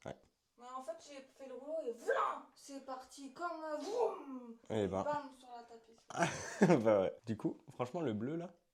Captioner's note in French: rires